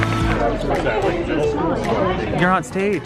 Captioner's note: crowd talking